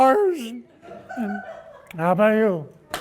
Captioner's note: laughing